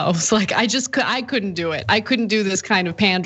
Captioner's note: laugh